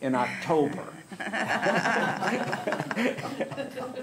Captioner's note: laughter